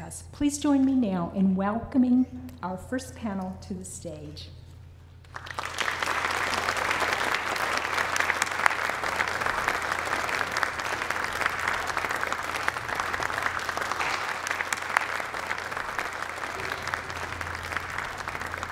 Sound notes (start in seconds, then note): 8.8 applause; 11.4 greater applause as panel enters stage